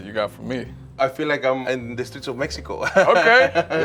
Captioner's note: laughs